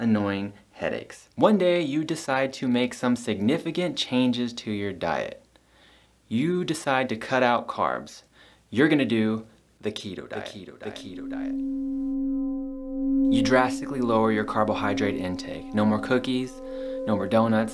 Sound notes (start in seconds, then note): 11.6 echo effect